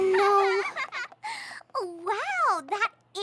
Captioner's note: laughs